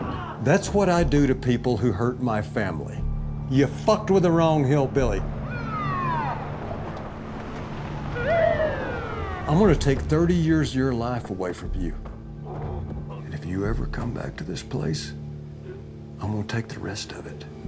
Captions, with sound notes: That's what I do to people who hurt my family. You fucked with the wrong hillbilly. [SIREN RINGING] I'm gonna take 30 years of your life away from you. And if you ever come back to this place, I'm gon' take the rest of it.